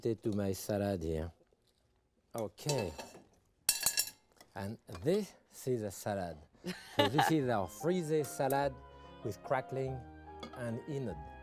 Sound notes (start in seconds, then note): 2.6 utensils clinking; 6.6 laughing; 7.0 serene music